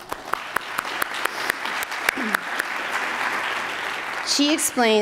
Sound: attendees applauding

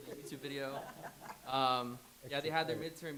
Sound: laughs

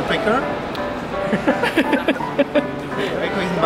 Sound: laughing

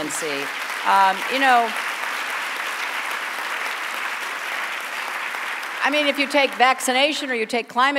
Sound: applause

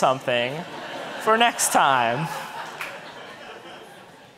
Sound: audience laughing

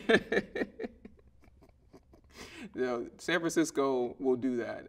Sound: laughing

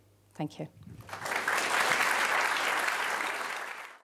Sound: applause

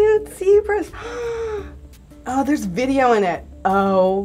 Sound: deep gasp

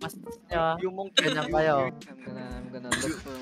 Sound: stuttering

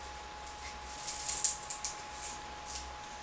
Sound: unplesant potato carving crunchy sound

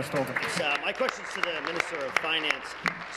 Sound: applause

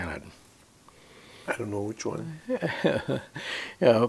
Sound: laughs

